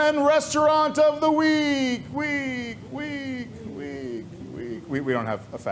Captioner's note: mimicking echoes